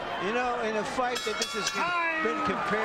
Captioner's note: bell rings